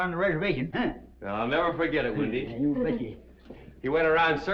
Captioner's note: mary chuckles